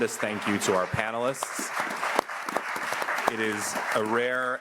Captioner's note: audience applauding